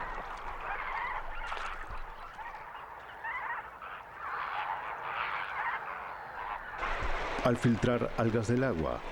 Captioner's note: graznidos